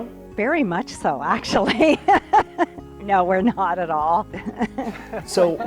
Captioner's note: laughs